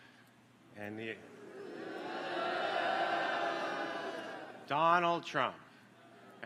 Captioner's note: applause